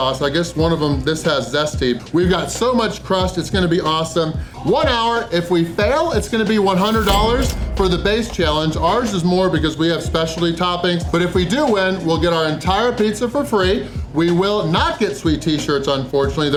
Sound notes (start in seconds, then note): none